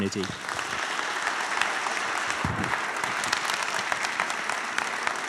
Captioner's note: applause